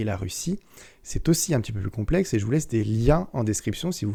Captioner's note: only in french